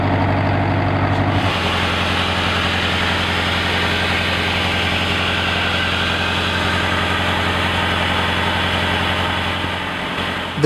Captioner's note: air hissing